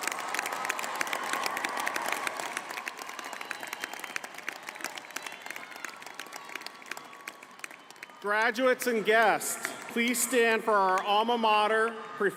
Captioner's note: applause